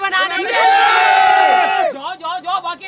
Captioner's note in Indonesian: Teriakan